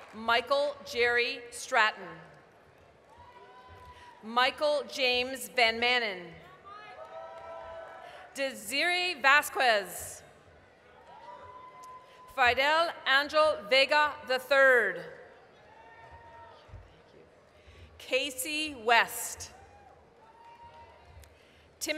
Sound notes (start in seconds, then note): 2.2 applause; 6.6 applause, cheering; 10.3 applause, cheering; 16.3 applause; 20.2 applause